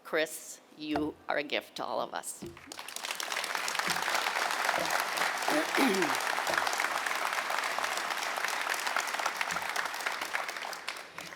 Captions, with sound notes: Chris, you are a gift to all of us. (audience clapping)